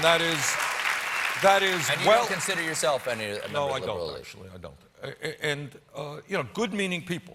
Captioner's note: applause